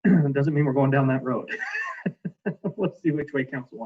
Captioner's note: laughs